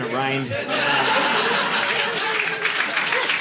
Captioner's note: audience laughing